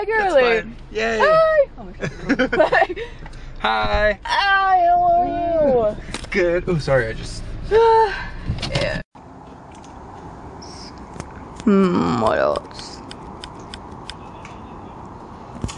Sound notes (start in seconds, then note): 2.0 laughs; 8.0 sighs